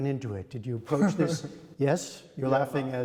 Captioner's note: laughter